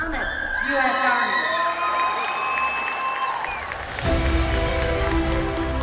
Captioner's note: Alan's family cheering; audience applauding; triumphant staccato music